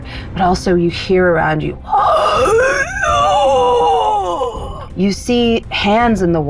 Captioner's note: groans